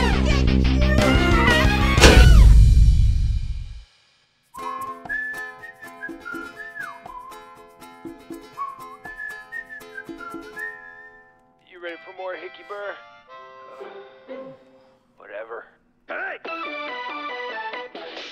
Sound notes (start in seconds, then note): 2.0 thunk; 11.2 tv playing